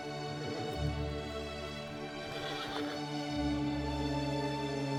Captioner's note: soft music; horse whinnying; soft music